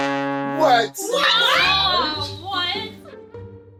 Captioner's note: screams